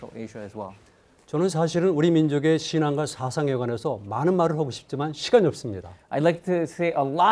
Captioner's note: speaking in Korean